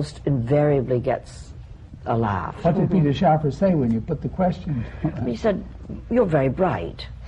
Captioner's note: laughter